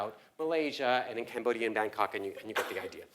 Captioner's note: cough